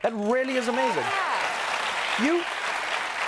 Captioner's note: applause and cheering